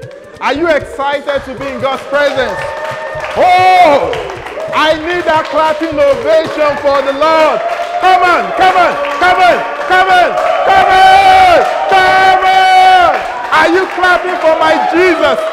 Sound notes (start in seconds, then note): 9.1 loud Ovation